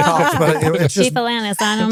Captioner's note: laughing